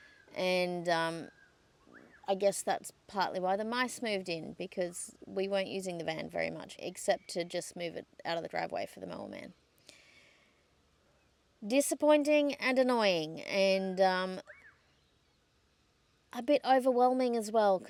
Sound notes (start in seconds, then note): none